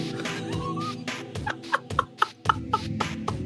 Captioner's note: laughs